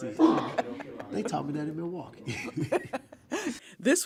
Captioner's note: laughs